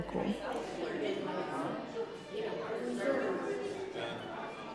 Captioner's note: guests chattering